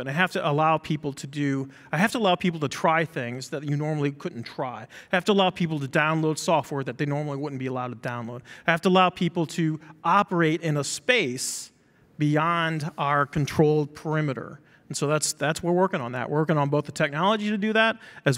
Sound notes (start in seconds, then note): none